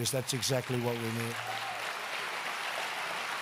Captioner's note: applause